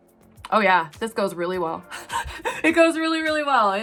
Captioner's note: laughing